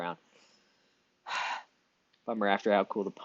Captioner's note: sighs